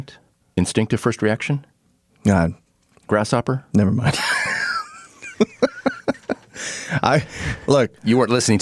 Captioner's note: laughing